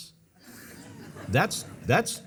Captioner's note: audience laughing